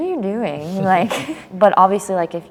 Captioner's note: laughs